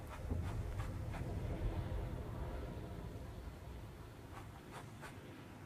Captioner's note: wind blowing